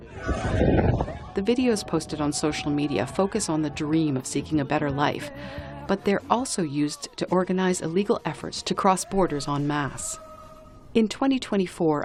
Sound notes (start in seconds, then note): 1.2 voice-over